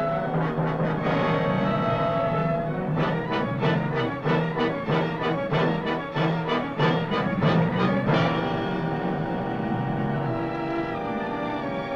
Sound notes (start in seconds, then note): 3.1 alligator growling; 5.5 suspenseful music